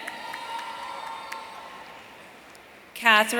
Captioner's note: audience cheering